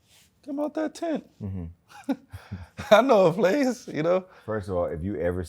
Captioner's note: chuckles